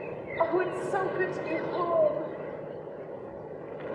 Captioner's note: sounds of the sea, and seabirds